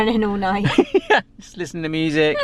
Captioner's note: laughing